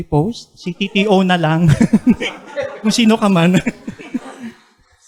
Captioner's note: laughs